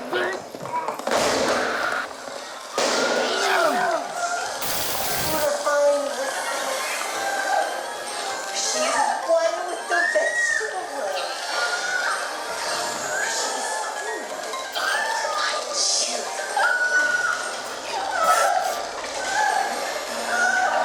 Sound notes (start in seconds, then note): 1.0 gun fires; 3.1 screams of terror; 8.2 TV rattles in background; 16.5 screaming continues